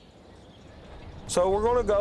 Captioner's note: birds chriping